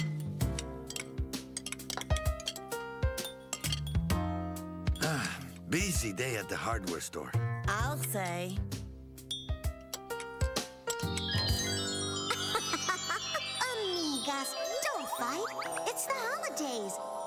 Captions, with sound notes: [SANTIAGO SIGHS] BUSY DAY AT THE HARDWARE STORE. I'LL SAY. HA HA HA! AMIGAS, DON'T FIGHT. IT'S THE HOLIDAYS.